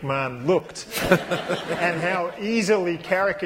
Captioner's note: laughter